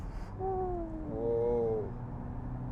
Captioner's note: accelerates